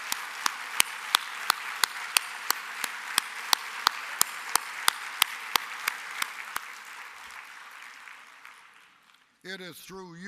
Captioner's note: applause